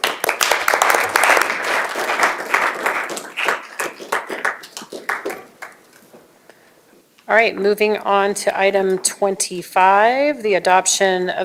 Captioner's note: applause